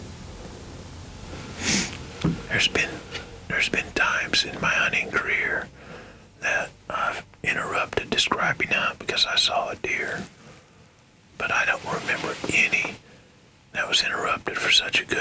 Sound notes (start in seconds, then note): 2.0 whispering